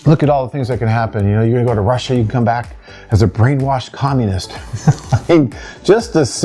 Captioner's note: laughs